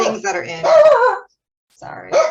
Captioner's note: dog barking